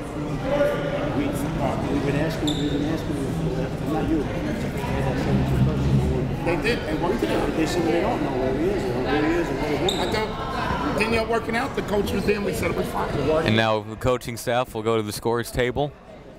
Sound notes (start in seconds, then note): 0.7 ref talking quietly